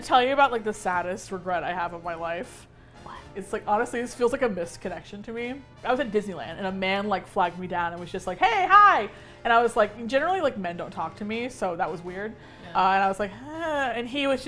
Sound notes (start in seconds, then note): 2.3 whispers; 8.4 excitedly; 13.0 with hesitation